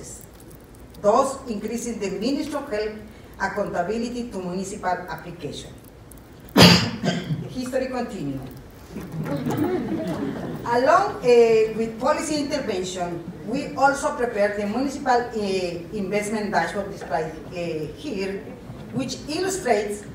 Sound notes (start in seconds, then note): 6.5 cough; 9.0 laughter